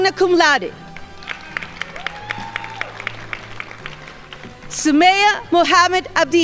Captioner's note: crowd applauding